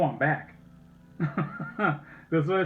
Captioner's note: chuckling